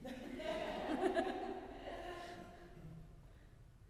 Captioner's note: audience laughing